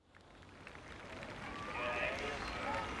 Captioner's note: applause